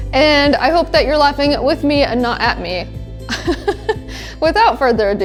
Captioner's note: laughs